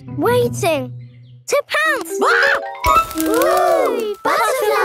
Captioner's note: screams